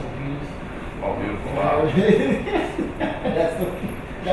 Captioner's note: students laughing